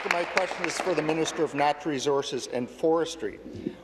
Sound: applause

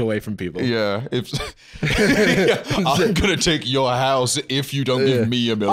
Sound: laughs; laughing

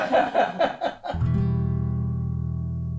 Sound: laughs

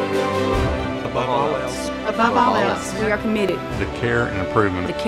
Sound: in Unison

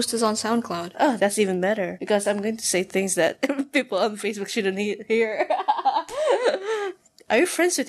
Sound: chuckles; laughs

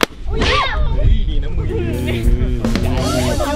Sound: screams

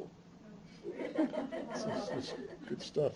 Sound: laughter

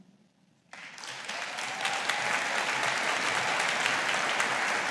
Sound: audience applauding

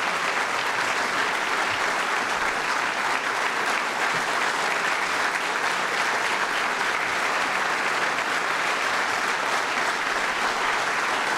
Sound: applause

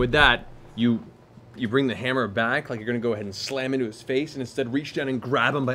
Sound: none

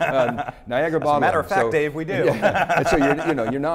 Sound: laughs

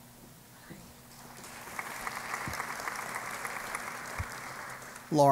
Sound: applause

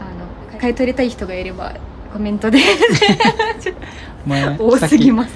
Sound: laughs

